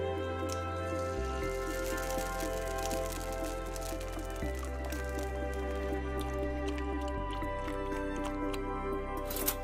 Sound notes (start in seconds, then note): 0.2 eggs sizzle; 7.1 milk glugs